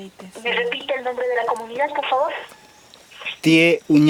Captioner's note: voice on the phone